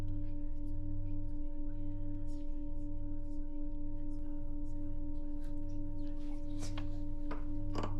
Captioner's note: people whispering continues; low humming continues